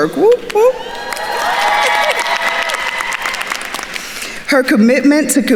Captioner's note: attendees cheering and applauding